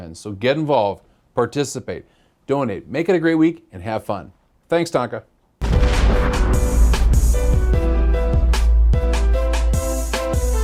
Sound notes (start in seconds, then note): 5.6 explosion